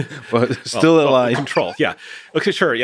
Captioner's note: laughing